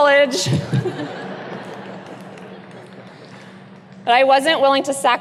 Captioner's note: audience chuckles